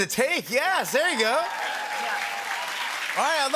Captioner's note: cheers and applause